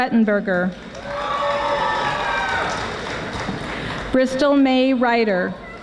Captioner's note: audience applauding